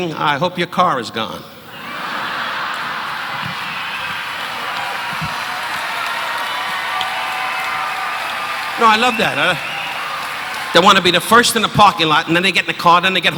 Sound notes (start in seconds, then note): 7.2 audience cheering; 8.3 audience laughing